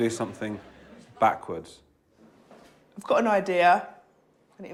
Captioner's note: laughter